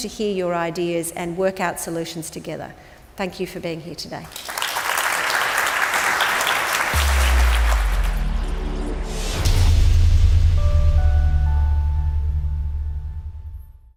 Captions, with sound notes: hear your ideas and work out solutions together. Thank you for being here today. (audience claps) (intense music)